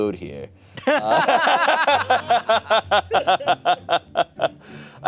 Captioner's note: everyone laughs